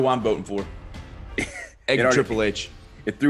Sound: laugh

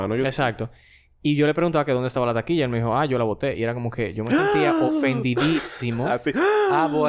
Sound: laughs; surprise sound

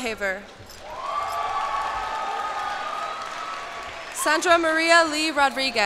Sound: cheers and applause

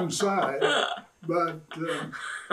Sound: laughs

